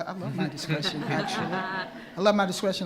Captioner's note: attendees laughing